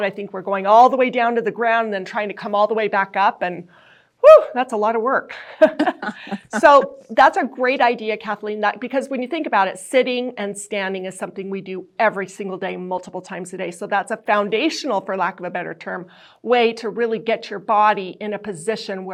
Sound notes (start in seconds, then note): 5.6 both chuckle